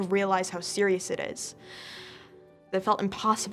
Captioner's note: deep breath